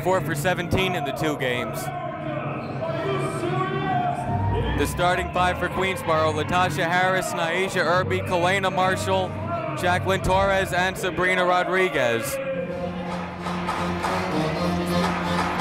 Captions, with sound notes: a combined four for 17 in the two games. (yelling) The starting five for Queensborough, Latasha Harris, Nyasia Irby, Kelena Marshall, Jaclyn Torres, and Sabrina Rodriguez. (upbeat music)